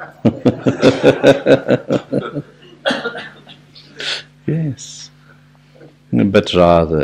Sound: laughs

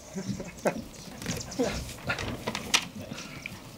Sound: laughing

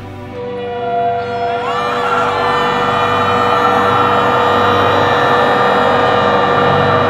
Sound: people screaming

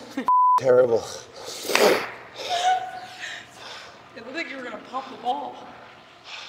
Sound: laugh

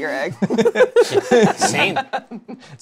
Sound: laughter

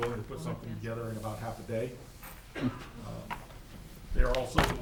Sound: chuckles

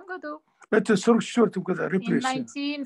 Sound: asks in Russian; in Russian

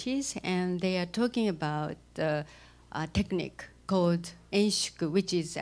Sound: non-english speech

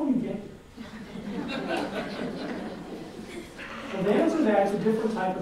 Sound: audience laughs

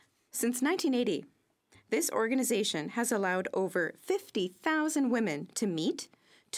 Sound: speaking French

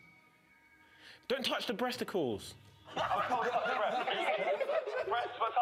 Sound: laughter

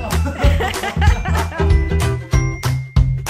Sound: laughs; upbeat music

